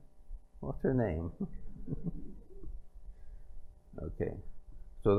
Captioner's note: laughter